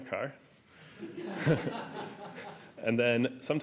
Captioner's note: laughter